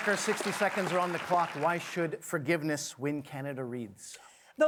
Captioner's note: applause